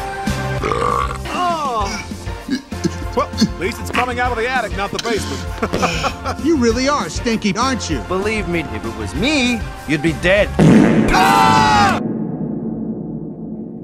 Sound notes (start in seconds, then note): 0.5 belch; 0.6 gagging; 4.8 chuckling; 10.6 intense flatulence; 11.0 screaming